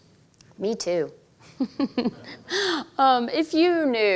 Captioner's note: laughs